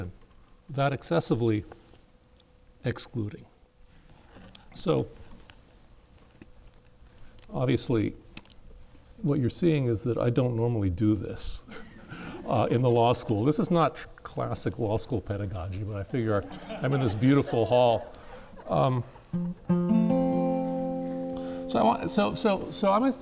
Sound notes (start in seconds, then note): 11.7 laughs; 19.3 plucks acoustic guitar